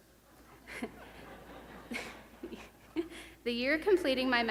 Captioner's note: laughter